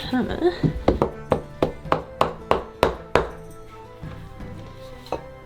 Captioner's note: hammer thudding